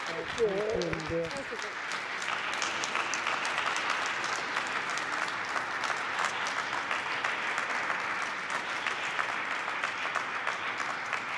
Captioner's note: applause